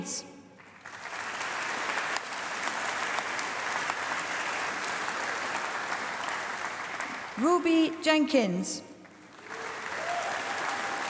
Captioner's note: applause; applause